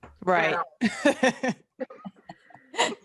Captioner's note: laughs